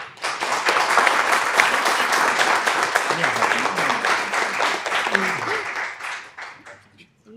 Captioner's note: applause